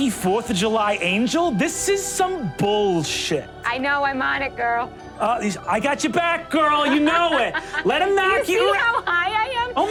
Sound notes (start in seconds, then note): 6.8 Sofia laughs